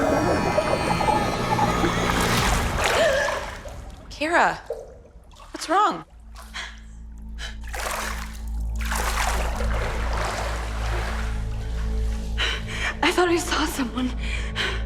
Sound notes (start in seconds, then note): 2.6 Kara gasps; 7.4 water splashes